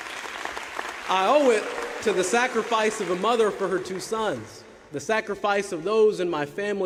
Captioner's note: applause